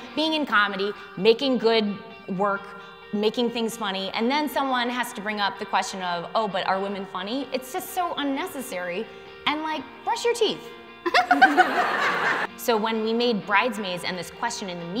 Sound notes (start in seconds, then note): 11.0 laughter